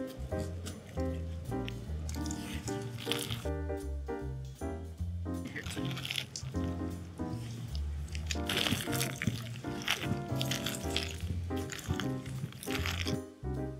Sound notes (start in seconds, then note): 0.1 soft piano music; 3.2 nuts cluttering